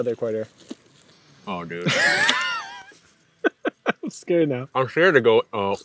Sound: laughs

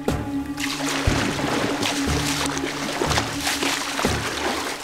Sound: water splashing

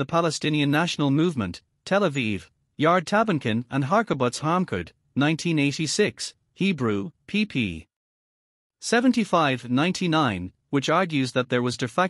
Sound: Hebrew

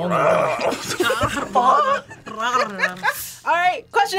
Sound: gurgles; purrs

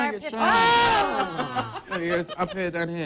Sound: laughing

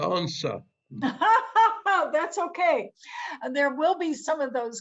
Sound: laughs

